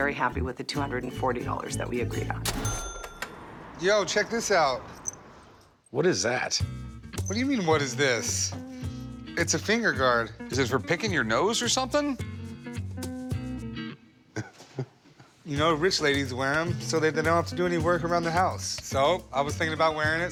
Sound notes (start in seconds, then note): 14.3 Corey laughs